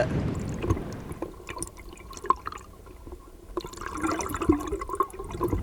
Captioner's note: muffled water gurgling